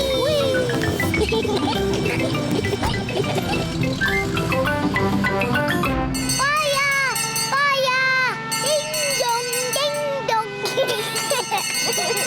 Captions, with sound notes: -Whee! -Whee! (GIGGLING) -(BELL RINGS) -Fire! Fire! -Ding, dong! Ding, dong! -(CHILDREN GIGGLING)